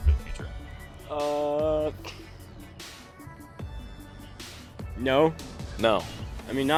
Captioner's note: laughs